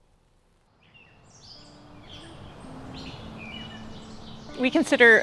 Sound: birds chirping

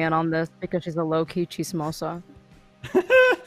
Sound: speaking in foreign language

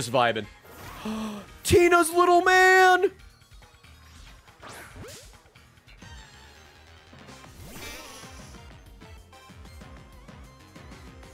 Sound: gasps

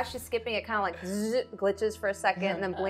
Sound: buzzes

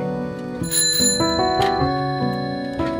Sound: cycle bell chiming

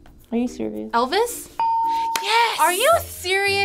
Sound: ding

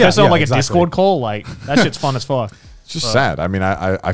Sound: laughing

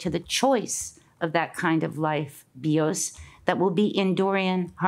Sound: speaks in Greek

